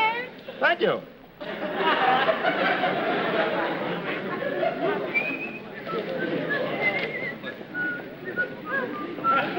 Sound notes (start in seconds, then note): 5.1 whistling